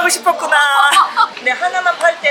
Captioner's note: laughing